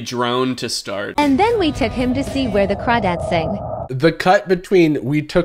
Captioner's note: AI voice